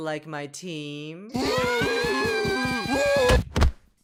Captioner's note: screaming